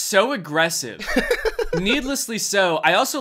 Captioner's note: laughs